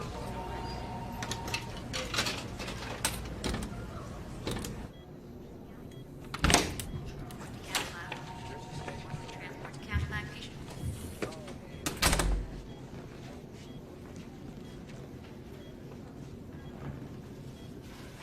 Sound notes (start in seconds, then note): 1.2 coins clatter; 4.4 monitor beeping; 6.2 door opens